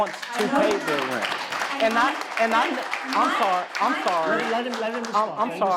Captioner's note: audience claps